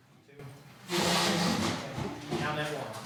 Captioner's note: chair scrapes